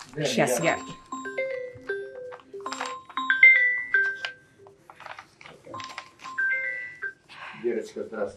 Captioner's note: phone ring